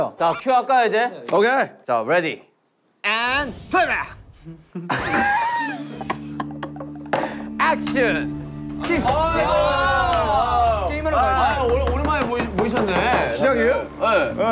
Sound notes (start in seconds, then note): 4.4 laughing